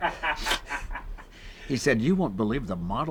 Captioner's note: laughs